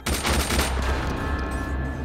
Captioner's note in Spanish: Disparos